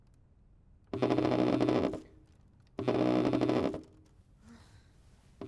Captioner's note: cellphone vibrating